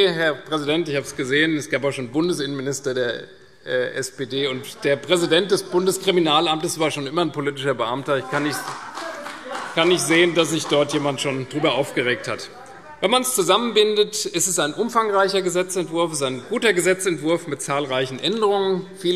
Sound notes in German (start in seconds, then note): 8.2 Beifall